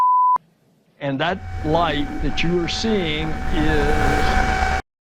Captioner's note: loud apocalyptic vacuum sound, idk